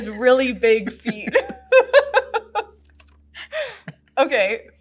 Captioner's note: laughs